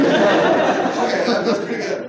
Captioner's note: laughter